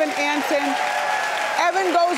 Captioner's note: audience cheering and clapping